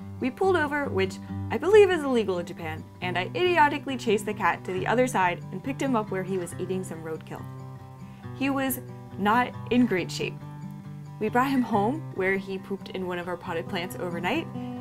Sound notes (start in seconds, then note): none